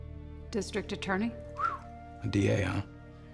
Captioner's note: whistles